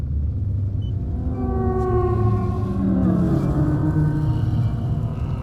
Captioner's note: walls creak under stress; Aerozoan moaning